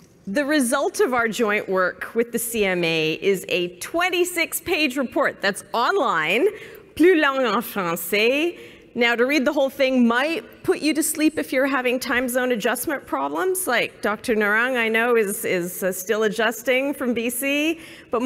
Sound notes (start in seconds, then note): 6.8 speaking french